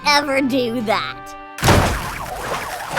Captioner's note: door slams hard